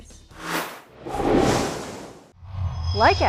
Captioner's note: sound Effects